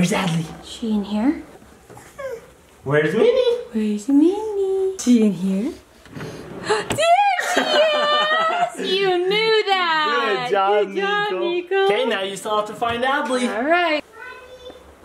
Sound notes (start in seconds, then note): 7.4 laughing